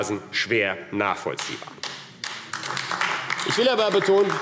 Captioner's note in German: Beifall AfD